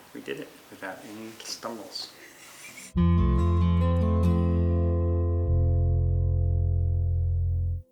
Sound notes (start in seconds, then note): 2.2 chuckles